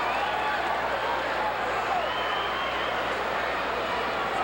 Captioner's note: audience chattering